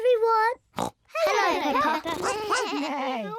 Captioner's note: all make animal noises; oinks